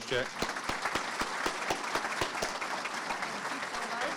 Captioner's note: audiences clapping